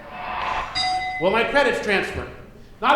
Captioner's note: dinging